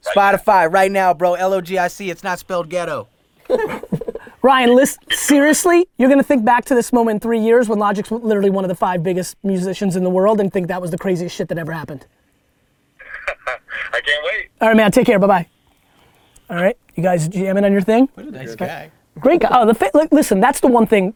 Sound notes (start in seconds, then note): 3.4 group laughter; 13.0 laughs